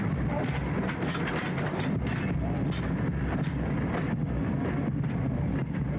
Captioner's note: train rumbling